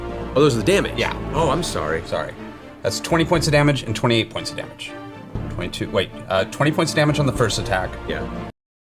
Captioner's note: none